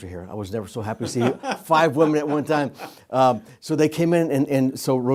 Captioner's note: laughs